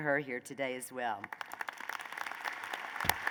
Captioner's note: applause